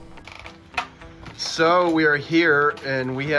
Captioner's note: door creaks